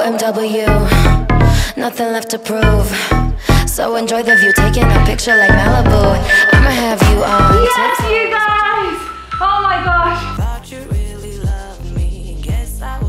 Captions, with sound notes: (timer beeping) Yes, you guys! Oh my gosh! (upbeat music)